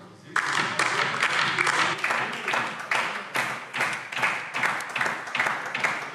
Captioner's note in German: Beifall DIE LINKE